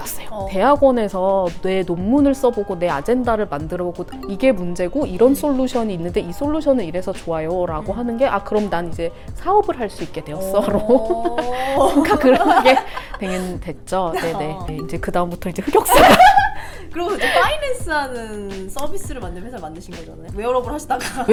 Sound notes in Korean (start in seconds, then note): 10.6 웃음